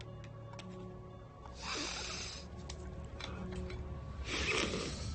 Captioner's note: guy snorting